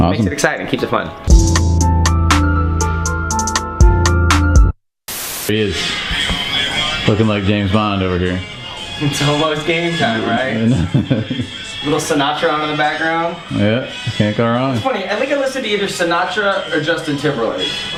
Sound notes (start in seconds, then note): 1.2 slow hip hop music; 5.1 static buzzes; 5.8 old fashioned music; 10.5 chuckles